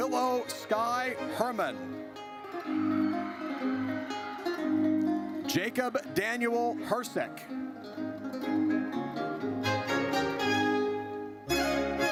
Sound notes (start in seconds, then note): 2.2 audience cheers; 8.0 triumphant music